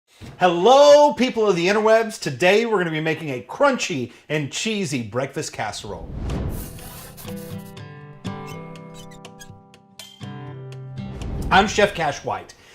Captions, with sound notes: - Hello people of the interwebs. Today were gonna be making a crunchy and cheesy, breakfast casserole. (mellow guitar music) (hinge squeaking) (whooshing) I'm Chef Cash White,